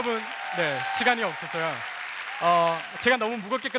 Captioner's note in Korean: 박수와 환호